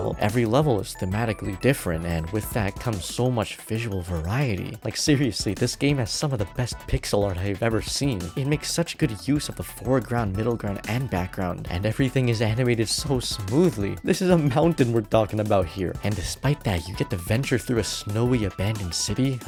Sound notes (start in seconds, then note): none